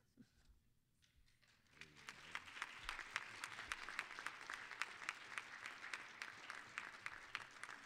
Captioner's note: applause